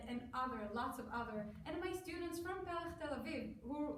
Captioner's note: foreign language